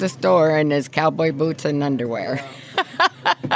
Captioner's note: laughter